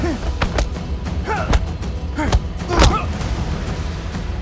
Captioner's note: dramatic music; both moaning